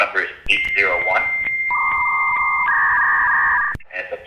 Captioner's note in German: AOL-Einwahlton der alten Schule für mehr Privatsphäre